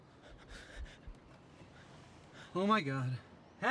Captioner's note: Vance panting